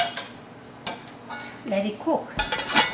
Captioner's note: utensils scraping